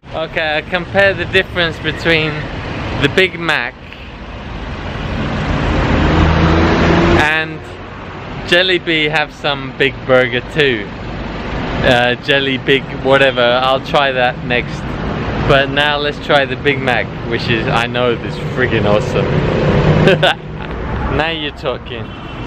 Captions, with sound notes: Ok compare the difference between the Big Mac. And Jellibee have some kind of big burger too. Jellibig whatever. I'll try that next. But now lets try the Big Mac. Which I know is awesome. (haha) Now you're talking.